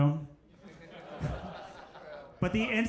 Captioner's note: crowd laughs